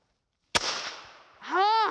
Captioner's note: gunshot; laughs